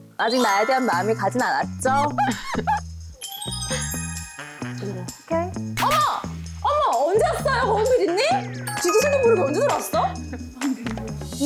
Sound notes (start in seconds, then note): 5.8 sound effect of spotting someone